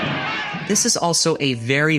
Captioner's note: crowd yelling